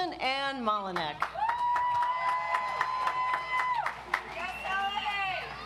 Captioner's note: audience applauds